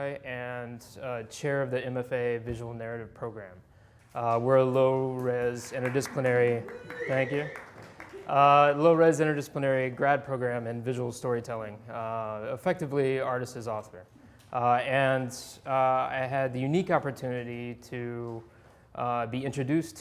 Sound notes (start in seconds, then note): 5.4 audience applauding